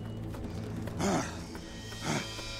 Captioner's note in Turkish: İnilti sesi